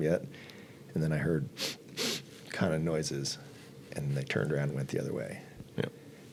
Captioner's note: sniff sniff